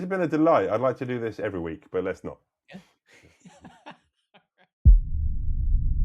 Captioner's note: laughing